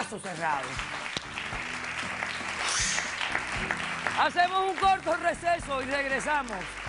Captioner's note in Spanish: Aplausos